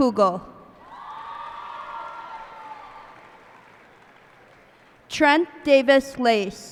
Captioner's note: cheers and applause